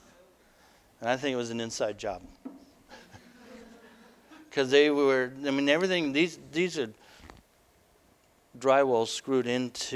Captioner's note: audience: Laughter